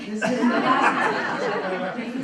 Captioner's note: laughter; laughter drowns out speaker